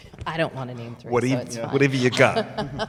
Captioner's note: laughs